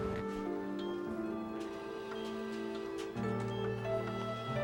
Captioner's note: slow gentle music; machines beeping